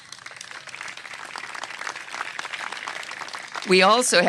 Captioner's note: applause